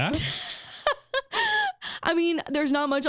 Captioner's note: laughing